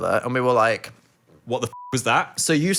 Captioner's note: beep